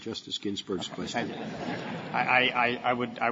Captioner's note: laughter